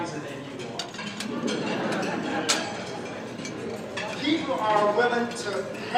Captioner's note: audience laughing